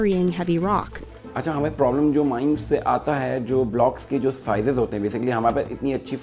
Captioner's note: speaks in a foreign language